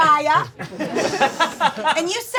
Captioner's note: audience laughing